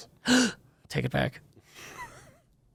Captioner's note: gasps